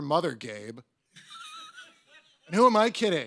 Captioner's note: audience members laugh